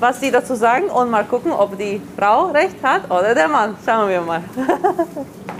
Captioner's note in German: lacht